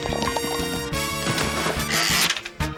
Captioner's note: splash!; wheel clicks